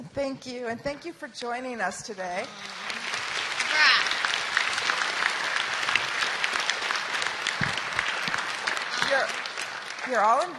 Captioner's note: applause